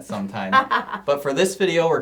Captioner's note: laughing